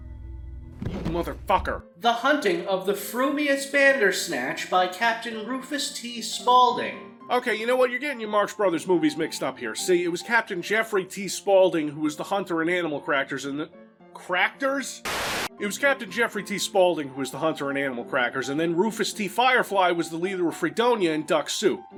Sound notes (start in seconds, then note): 15.0 TV buzzing